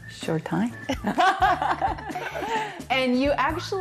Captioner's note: laughing